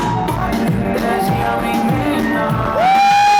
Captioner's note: surprisingly large crowd cheering